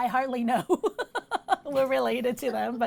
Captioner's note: laughs